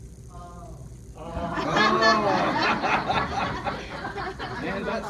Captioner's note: laughter